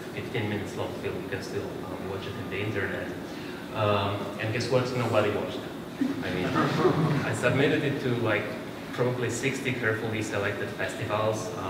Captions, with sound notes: It's like a 15 minutes long film -- you can watch it on the internet. And guess what? Nobody watched. [LAUGHTER] I mean ... I submitted it to probably 60 carefully selected festivals ...